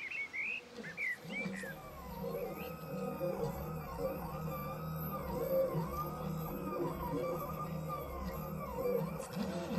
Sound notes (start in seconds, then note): 2.0 printer noise in background